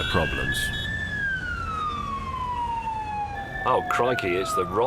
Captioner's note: sirens